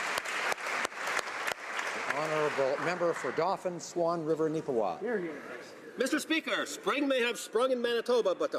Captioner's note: applause